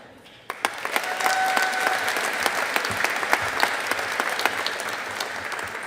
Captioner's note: audience applauding